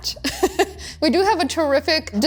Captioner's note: laughs